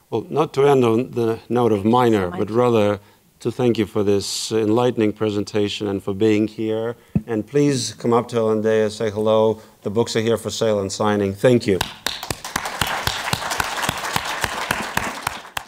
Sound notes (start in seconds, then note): 11.7 participants clapping